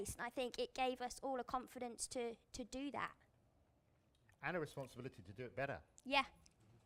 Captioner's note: none